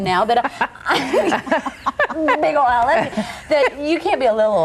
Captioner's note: laughing